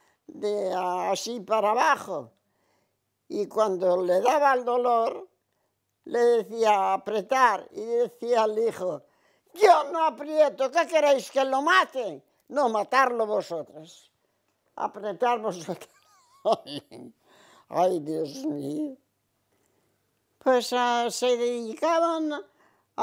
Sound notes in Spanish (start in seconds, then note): 15.7 Ríe